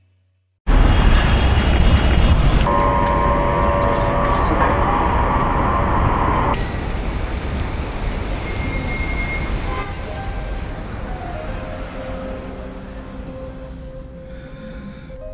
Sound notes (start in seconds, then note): 2.6 object trilling; 8.6 car horn honking; 9.8 piano music